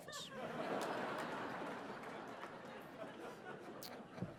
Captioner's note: audience laughing